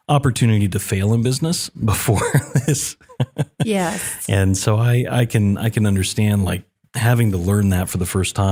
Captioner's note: laugh